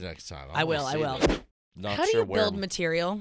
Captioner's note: whooshing